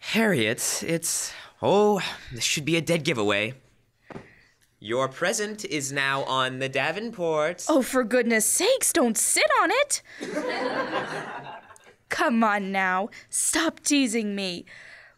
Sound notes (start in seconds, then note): 4.1 sound sitting down; 10.2 laughter